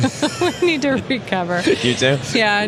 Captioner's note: laughs